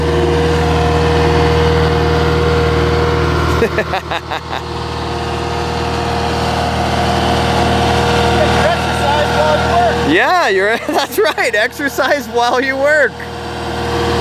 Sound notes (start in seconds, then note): 3.5 laughing